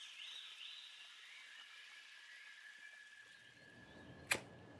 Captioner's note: birds chirping